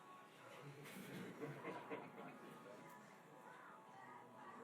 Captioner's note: laughing; muffled music